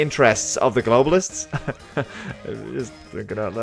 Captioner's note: nervous laugh